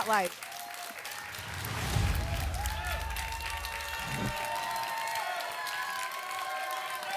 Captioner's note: applause and cheering cont